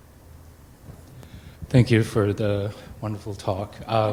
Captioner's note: voiceover